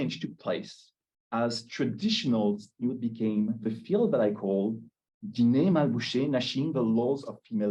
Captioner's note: Hebrew; Hebrew